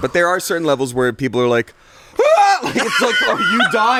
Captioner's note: screams